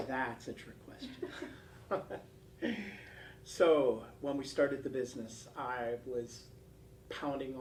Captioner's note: laugh